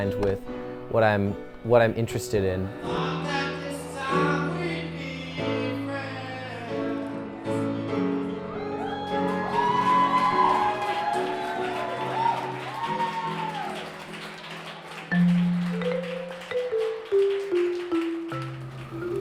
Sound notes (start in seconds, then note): 2.7 singing; 8.1 crowd cheering